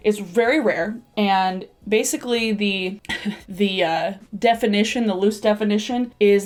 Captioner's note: chuckles